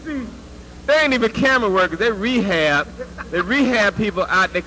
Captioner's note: laugh